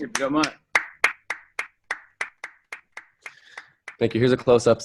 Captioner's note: applause